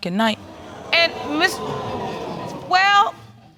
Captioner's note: audience exclaiming